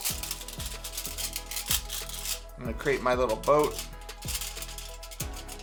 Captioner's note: aluminum foil rattling